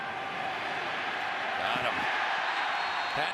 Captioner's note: cheers, applause